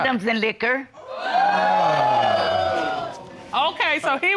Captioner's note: audience exclaiming